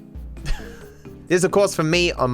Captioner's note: laughs